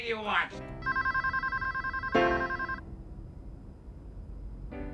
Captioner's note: telephone ringing; downtempo piano